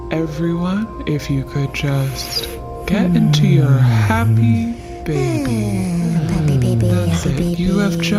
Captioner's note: deep breathing, student repeating “happy baby”